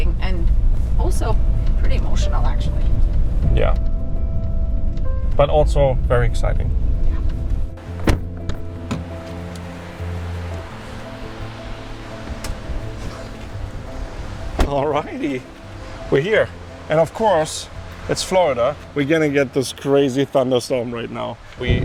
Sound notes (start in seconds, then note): 7.9 door closing; 9.3 ambient music